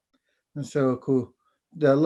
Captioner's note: foreign Language